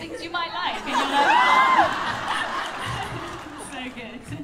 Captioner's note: laughter